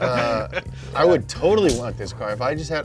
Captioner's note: both laughing loudly; punch thuds